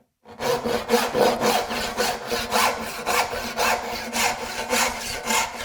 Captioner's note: saw on wood rhythmically rasping